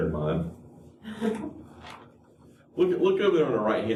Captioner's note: laughter